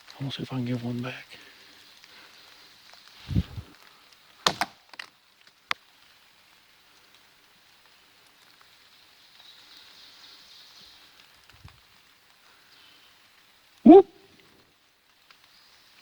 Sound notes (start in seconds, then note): 4.4 stick knocks; 9.8 bird chirps